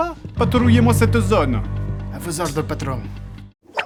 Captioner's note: even more terrible mafia accent